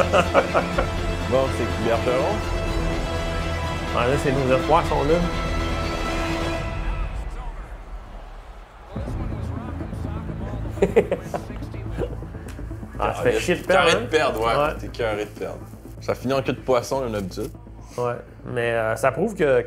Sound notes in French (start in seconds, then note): 10.6 rire